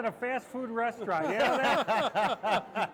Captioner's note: group laughs